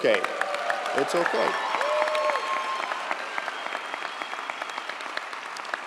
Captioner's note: audience applauds and cheers